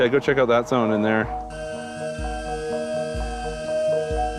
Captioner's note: drone whirring